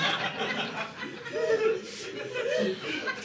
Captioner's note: audience laughing